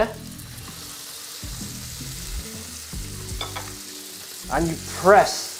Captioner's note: sizzling sound